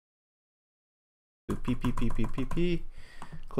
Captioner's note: repeating "P" with key presses